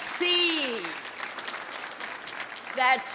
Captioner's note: audience applauding